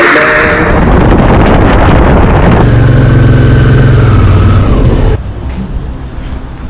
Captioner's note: motorbike engine; calm instrumental music